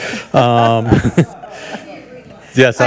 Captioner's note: audience chuckles